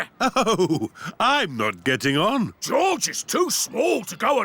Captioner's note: chuckling